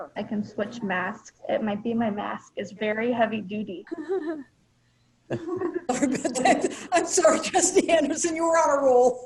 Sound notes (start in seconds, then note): 3.6 laughs sarcastically